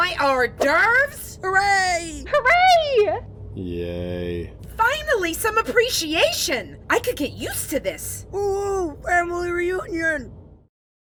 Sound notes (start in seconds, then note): 8.7 mouth full